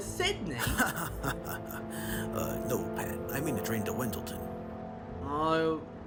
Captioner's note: laughs